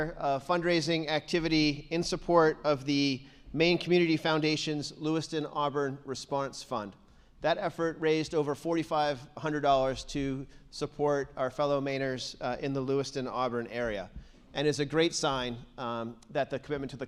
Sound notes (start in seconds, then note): none